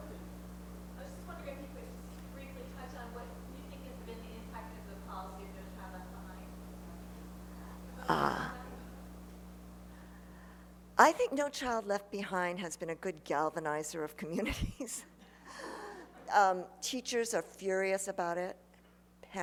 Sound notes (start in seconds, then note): 1.1 voiceover; 14.4 laughter; 15.0 laughs